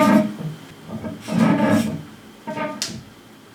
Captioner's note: scratching sounds